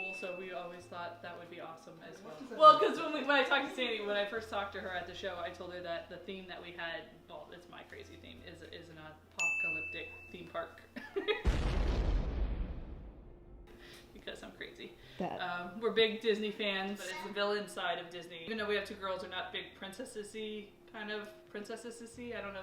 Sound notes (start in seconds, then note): 10.9 laughing; 11.4 exploding